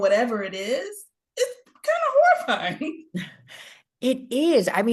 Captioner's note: chuckles